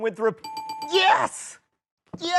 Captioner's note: bell rings